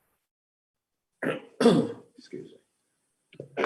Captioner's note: clearing throat